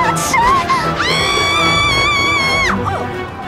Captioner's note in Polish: krzyczy